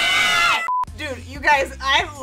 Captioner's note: monotonous high pitch sound